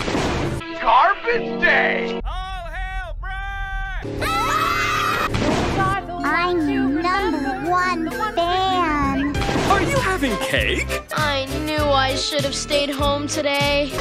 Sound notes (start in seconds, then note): 3.6 all screaming